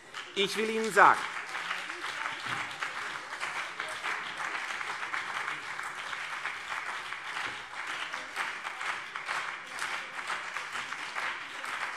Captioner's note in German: Beifall CDU und BÜNDNIS 90/DIE GRÜNEN - Zurufe SPD